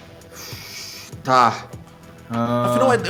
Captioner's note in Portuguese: Suspiro